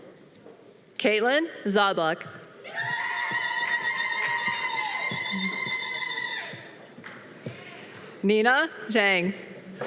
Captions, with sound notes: Caitlin Zablock. (audience applause) Nina Jeng.